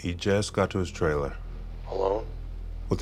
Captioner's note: on phone